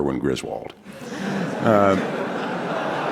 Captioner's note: laughter